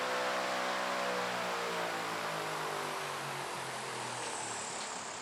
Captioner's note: fan Motor Slows